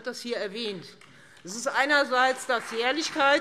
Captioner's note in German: Beifall Freie Demokraten und vereinzelt AfD